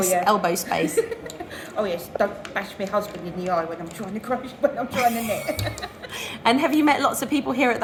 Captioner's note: giggles; laughter